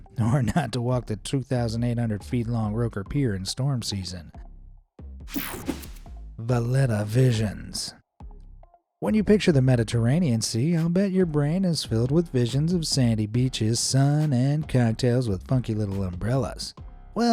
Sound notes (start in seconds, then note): 5.3 screen whooshing